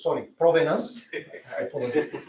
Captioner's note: laughter